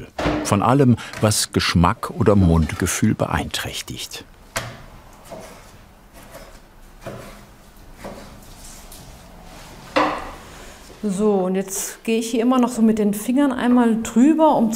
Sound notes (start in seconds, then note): 6.9 quiet cutting noise